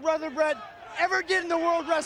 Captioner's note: audience chanting